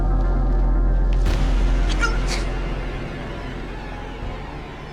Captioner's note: man groans